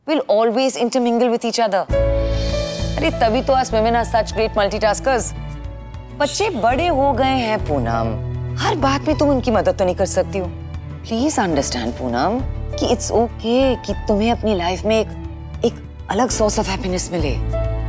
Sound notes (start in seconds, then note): none